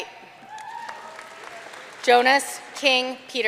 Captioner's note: audience cheering and applauding